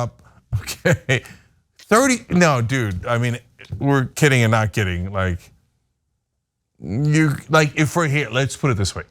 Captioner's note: laugh